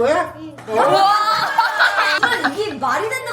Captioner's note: cheers